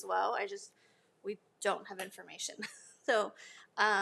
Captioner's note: laughs